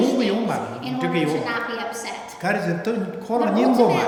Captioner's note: speaking tibetan